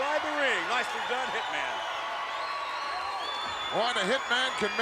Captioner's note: crowd cheering